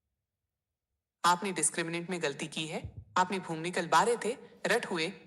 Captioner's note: speaking hindi